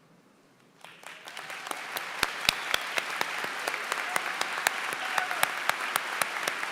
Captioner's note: applause